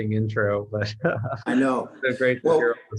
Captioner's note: laughs